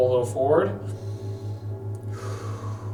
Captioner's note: exhales; inhales